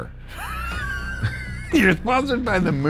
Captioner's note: chuckles